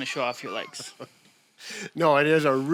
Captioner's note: laughs